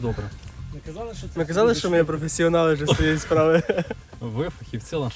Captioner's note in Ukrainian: сміх